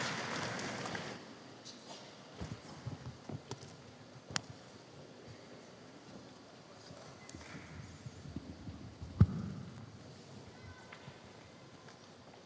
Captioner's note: applause